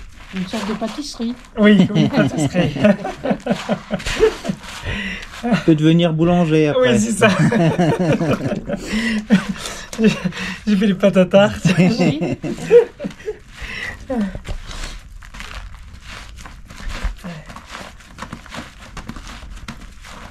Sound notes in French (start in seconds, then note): 10.1 rigole